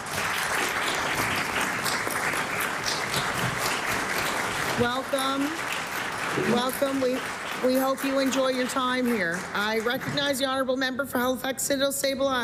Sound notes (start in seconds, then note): 0.0 applause